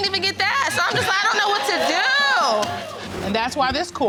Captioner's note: audience cheering